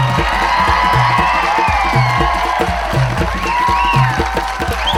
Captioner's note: audience cheering and applauding